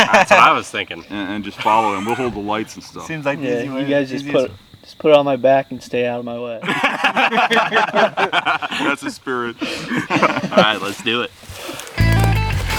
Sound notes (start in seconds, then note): 6.6 laughing; 12.0 upbeat music